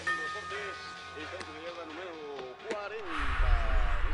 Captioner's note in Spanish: Timbre de la puerta